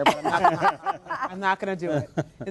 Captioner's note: laughter